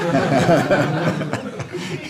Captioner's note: laughter